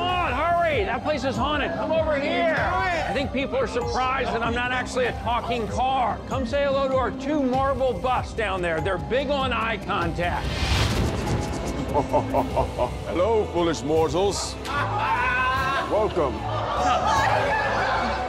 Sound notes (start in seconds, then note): 10.4 thunder; 11.7 evil laugh; 14.4 laughter